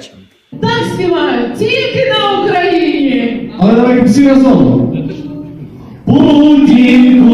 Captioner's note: She: - In this way are singing only in Ukraine! Putin - As//hole///lalalala